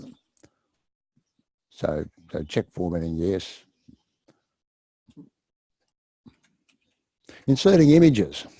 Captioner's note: pause